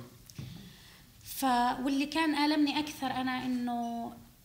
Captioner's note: speaking arabic